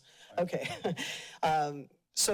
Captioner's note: chuckles